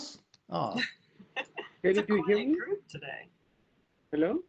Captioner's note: laughs